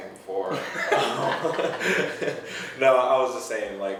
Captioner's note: laughing